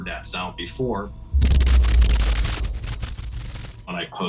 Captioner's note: thunderous boom